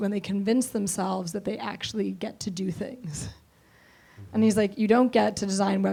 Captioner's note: laughs